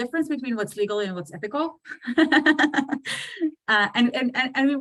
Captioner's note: laughs